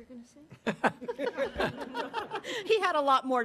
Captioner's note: audience laughing